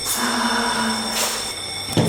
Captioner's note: fire alarm; sigh